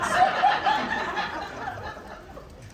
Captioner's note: crowd laughing